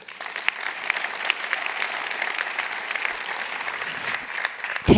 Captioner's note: applause